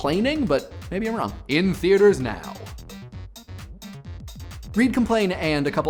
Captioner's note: in announcer's voice